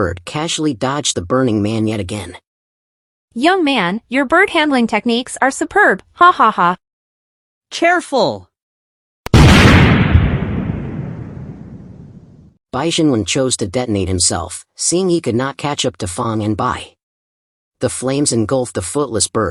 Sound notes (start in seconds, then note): 12.6 explosion